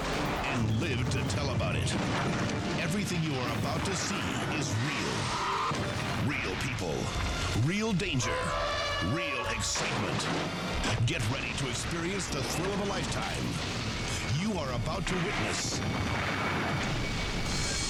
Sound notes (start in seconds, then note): 8.1 elephant trumpeting; 15.4 explosion booming